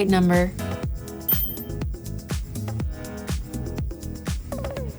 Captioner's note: phone dings